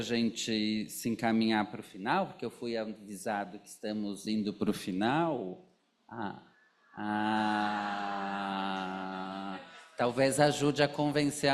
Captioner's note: laughs